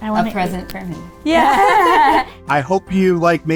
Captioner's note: both laughing